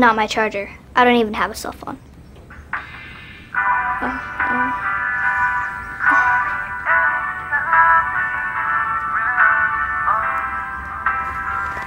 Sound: cell phone ring

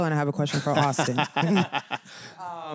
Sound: laughter

